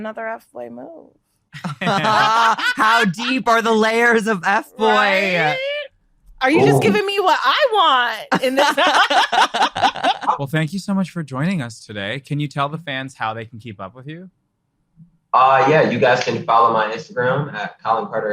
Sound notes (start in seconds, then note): 6.5 laughs; 15.7 all laughing